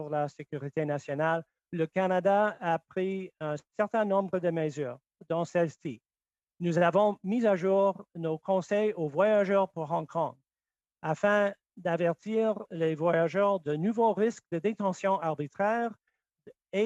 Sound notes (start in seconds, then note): 0.0 speaking French; 5.8 speaking French